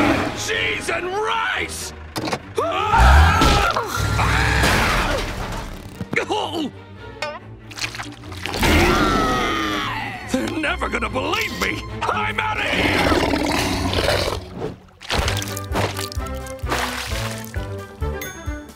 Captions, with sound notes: Cheese and rice! [screaming] They're never going to believe me, I'm outta here!